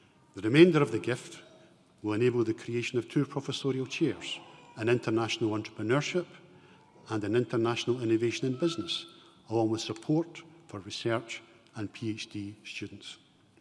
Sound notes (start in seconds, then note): none